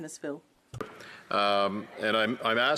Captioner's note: speaking French